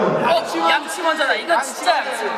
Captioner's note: all shout out brush first